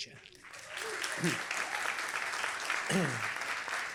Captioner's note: applause